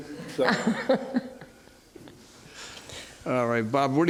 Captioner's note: laughs